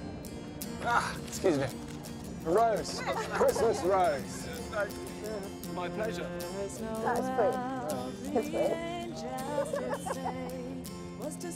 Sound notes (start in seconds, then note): 8.2 woman laughing